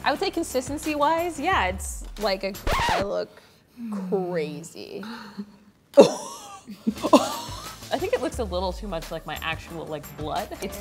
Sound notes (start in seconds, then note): 2.6 record scratching; 6.0 laughing